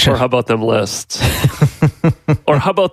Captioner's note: laughing